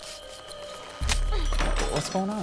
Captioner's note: metallic clattering; Candace grunts